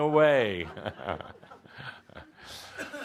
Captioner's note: more laughter